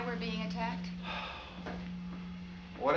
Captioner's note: Harry sighs